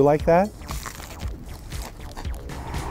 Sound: satisfying crunch

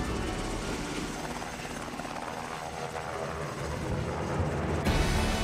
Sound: helicopter flying

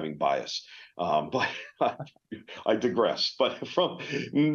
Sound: laughs

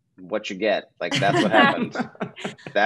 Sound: laughter

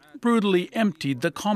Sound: speaking Foreign Language

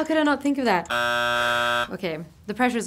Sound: buzzer beeping

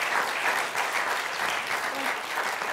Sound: applause

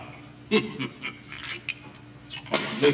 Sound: chuckling

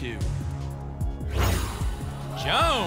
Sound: whoosh

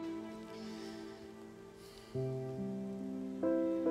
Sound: sighs

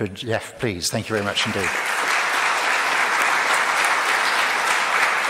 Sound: audience claps

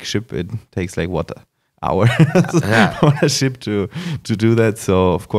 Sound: laughs

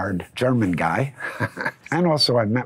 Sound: chuckling

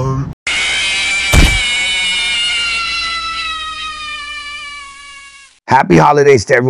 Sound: FNAF jumpscare

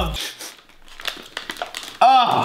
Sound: sniffing

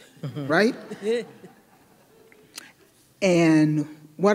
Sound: audience laughing

